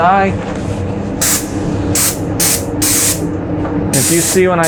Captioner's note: spray gun hissing